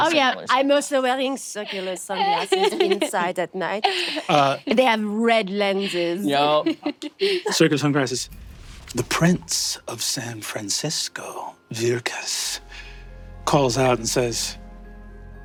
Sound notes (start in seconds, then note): 5.6 laughing